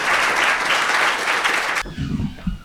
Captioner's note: applause